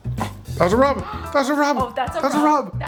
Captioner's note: gasping